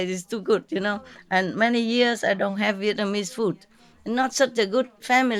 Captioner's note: Vietnamese